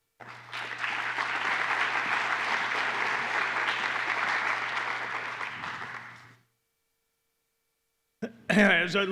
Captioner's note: applause